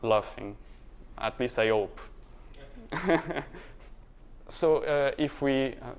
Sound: laughter

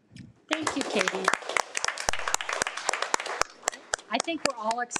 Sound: audience applauds

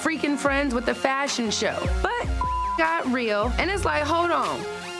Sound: beep

